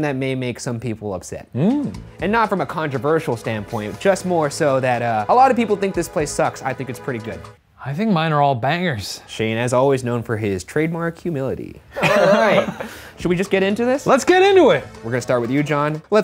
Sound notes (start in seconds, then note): 11.9 laughing